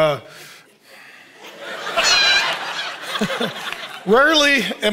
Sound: audience laughing

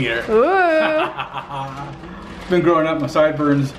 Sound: laughs

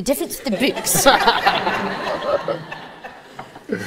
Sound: audience laughs

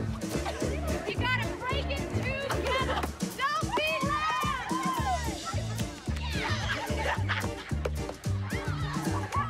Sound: laughter

